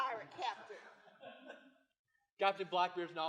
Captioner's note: laughter